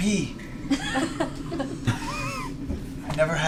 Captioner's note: laughter